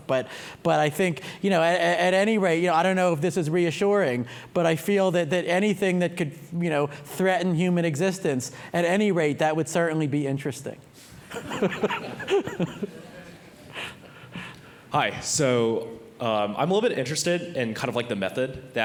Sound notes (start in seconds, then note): 11.3 laughs